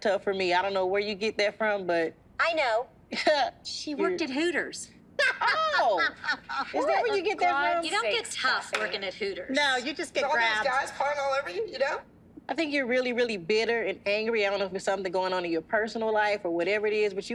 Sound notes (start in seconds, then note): 2.8 chuckles; 5.2 laughter